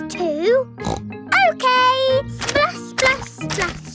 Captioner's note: snorts